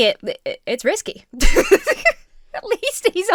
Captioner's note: laughs